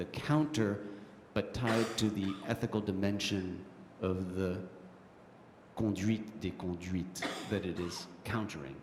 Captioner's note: french